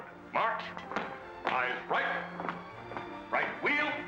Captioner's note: boot steps